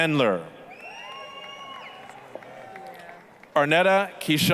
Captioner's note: applause, cheering